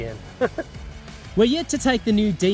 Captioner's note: chuckle